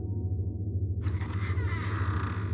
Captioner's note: door creaks open